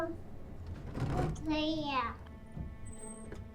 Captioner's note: addi babbles